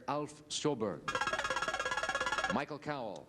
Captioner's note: buzzer beeps